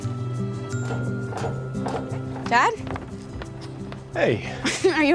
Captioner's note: footsteps approaching